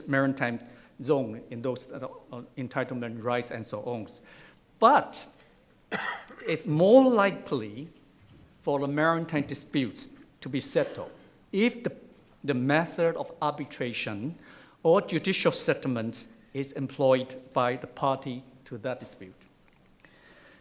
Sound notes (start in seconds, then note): 5.9 coughing